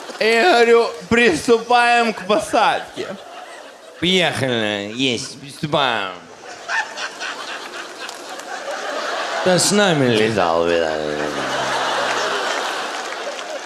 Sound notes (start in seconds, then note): 6.6 guy in audience in hysterics